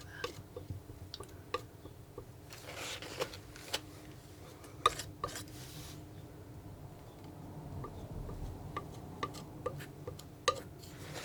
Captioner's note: tapping on paint